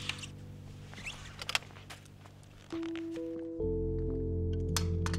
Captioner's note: kickstand clicks